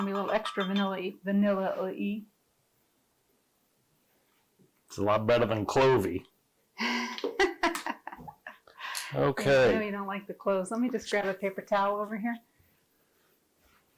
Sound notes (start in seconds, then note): 0.0 spoon clanking on glass jar; 6.8 laughing